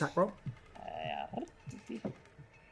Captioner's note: trills